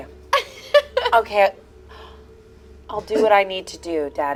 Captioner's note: laughs